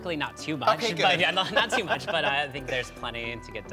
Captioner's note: chuckles